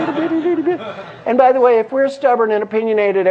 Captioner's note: laugh